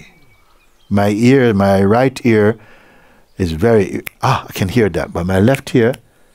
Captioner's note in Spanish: chasquea los dedos